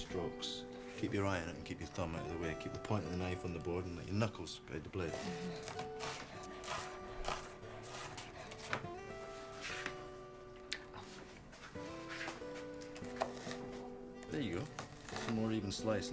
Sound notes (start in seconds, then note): 6.8 gentle music; 6.8 knife thudding